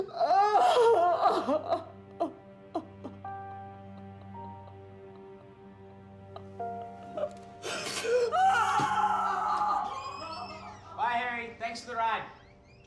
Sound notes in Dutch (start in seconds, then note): 7.7 gillend snikken